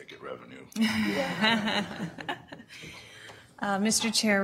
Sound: audience laughter

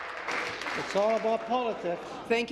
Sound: applause

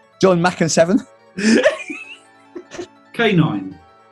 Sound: laughing

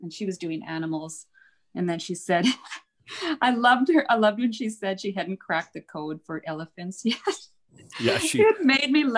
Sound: laughs

